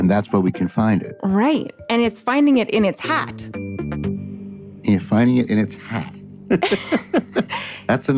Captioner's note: laughs